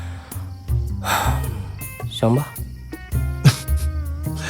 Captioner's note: sighs; laughs